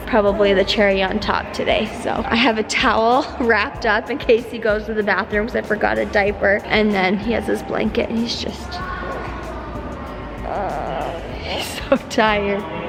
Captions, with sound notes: probably the cherry on top today so. I have a towel wrapped up in case he goes to the bathroom because I forgot a diaper, and then he has his blanket and he's just. (baby coos) He's so tired.